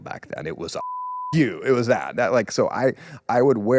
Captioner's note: beep